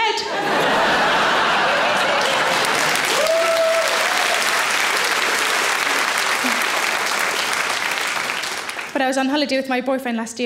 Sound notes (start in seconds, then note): 0.2 audience laughing; 0.5 audience applauds